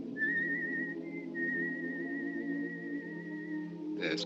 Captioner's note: whistling